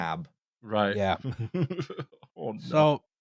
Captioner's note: laughter